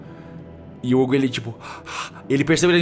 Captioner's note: gasps